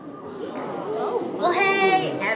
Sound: students gasp

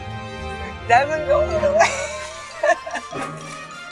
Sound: laughing

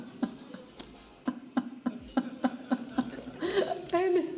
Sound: laughs

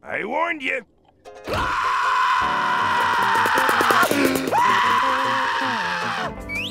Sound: screaming

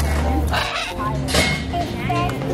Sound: birds squawking; group chattering

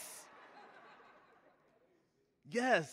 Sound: audience laughing

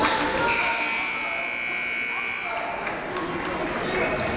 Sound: buzzer goes off

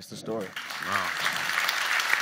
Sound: audience claps

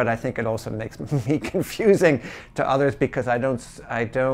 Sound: chuckles

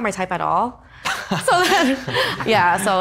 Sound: laughs

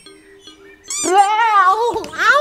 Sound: mouse squeaks

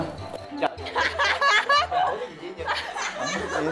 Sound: laugh

